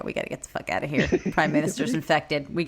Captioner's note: laughing